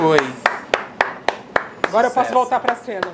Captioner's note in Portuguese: palmas